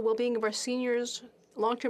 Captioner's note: speaking French